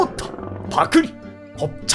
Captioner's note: gulp